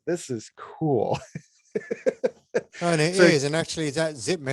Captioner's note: laughs